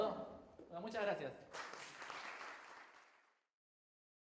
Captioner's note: crowd claps